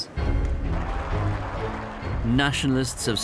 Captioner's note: cheering